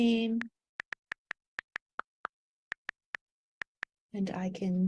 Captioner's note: on-screen keyboard clicking